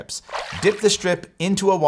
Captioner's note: water splashes